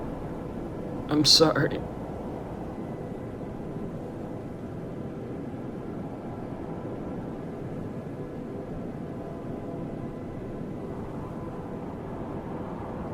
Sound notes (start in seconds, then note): 2.6 wind whooshing